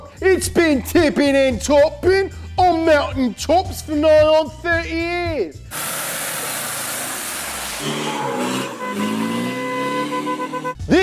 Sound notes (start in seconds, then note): 6.1 car engine rumbles; 7.6 engine revving; 7.8 horn honking